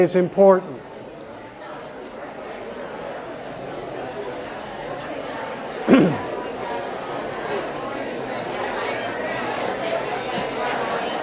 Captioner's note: audience chatter